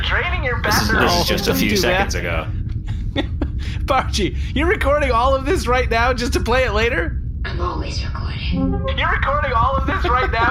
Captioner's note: laughing